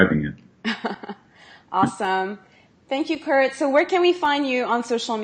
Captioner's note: laughs